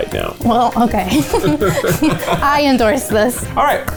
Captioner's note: both laugh